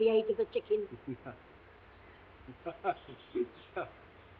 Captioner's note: Watson chuckling